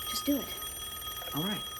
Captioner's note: phone ringing